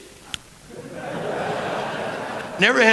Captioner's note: laughter